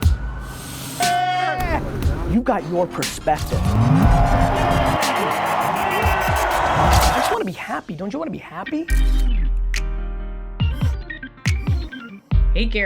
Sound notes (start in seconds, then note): 0.1 upbeat music; 1.1 shouting happily; 3.0 engine roaring; 4.1 bright upbeat music; 5.5 crowd cheering; 10.7 bright upbeat music